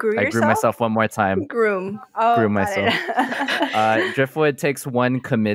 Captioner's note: laughs